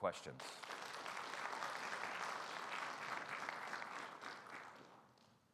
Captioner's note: audience applauding